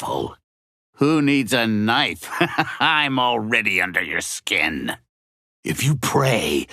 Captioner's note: laughing